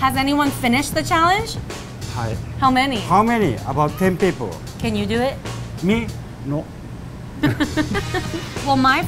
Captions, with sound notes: - Has anyone finished the challenge? - (foreign language) - How many? - How many? About 10 people. - Can you do it? - Me? Nope. (laughing)